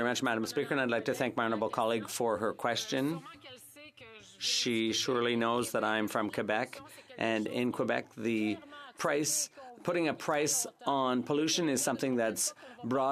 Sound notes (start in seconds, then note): 3.5 speaking French